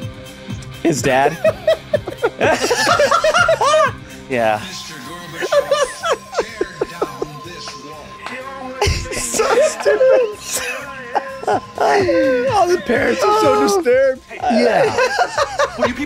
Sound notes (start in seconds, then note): 1.2 everyone laughs; 5.3 Rob laughing; 8.8 everyone laughs